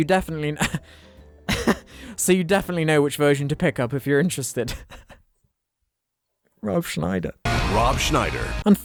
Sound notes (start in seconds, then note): 1.4 chuckling; 4.7 laughing; 7.4 rock music